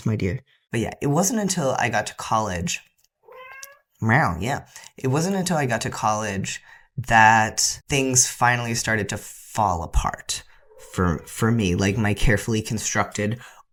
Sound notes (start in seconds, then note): 3.2 loud meow